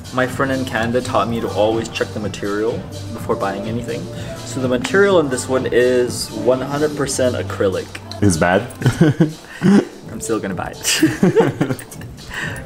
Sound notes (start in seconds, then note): 8.3 both laugh; 11.8 both laugh